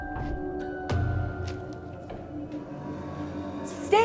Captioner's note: door clattering